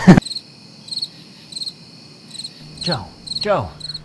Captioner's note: crickets